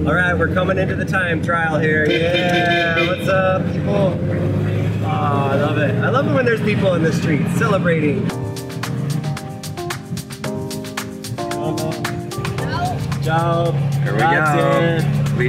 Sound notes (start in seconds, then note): 2.0 horn honking; 8.2 ambient music; 13.0 speaking in foreign language